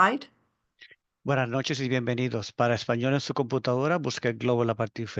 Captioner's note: speaking Spanish